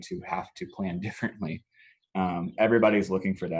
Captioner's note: laughs